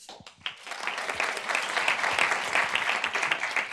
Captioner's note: group applauds